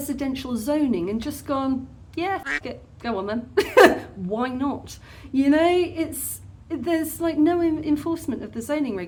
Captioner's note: quack